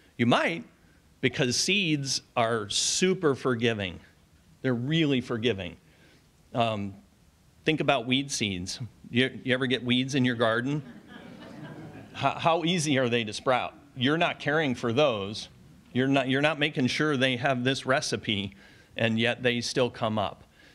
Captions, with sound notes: You might, because seeds are super forgiving. They're really forgiving. Think about weed seeds. You ever get weeds in your garden? [audience laughs] How easy are they to sprout? You're not caring for those. You're not making sure they have this recipe, and yet they still come up.